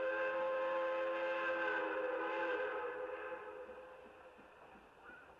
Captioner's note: train horn blares